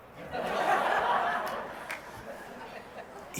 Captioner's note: laughter